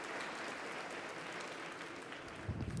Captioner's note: applause